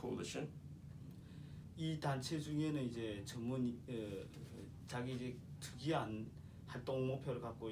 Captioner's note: speaking korean